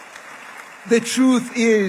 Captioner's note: applause